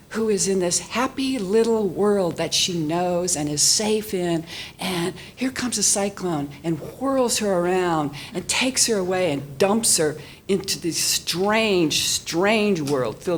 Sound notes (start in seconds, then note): none